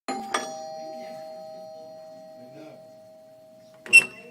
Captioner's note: bell rings